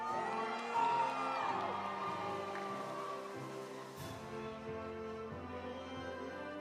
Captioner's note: audience cheering; audience applauding